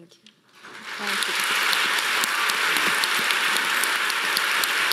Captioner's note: audience applauding